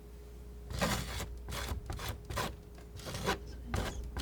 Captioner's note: scratching